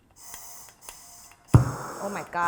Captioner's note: hissing